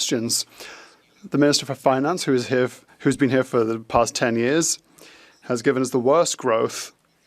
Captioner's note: speaking French